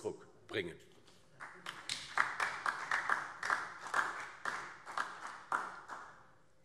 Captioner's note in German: Beifall DIE LINKE und vereinzelt SPD